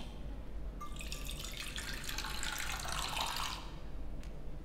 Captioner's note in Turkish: Şarap doldurma sesi